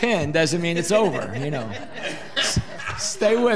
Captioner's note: audience laughing